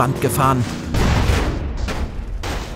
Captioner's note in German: Rumpeln